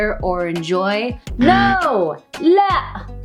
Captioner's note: buzzing sound; speaks in foreign language